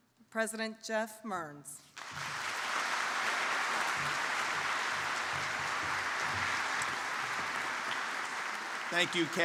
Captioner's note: applause